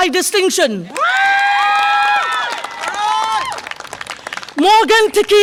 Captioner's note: audience applause and cheer